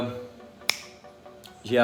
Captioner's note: snaps